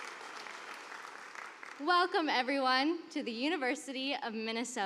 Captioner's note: cheers and applause